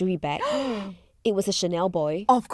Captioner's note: gasps